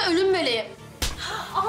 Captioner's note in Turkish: Tokat Sesi